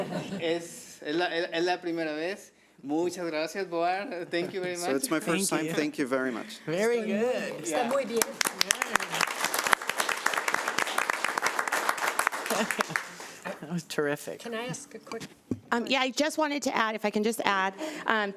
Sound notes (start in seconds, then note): 0.1 man speaking foreign language; 7.7 audience applauding